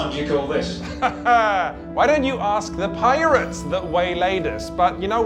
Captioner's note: laughs